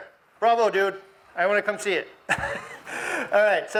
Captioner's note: laughs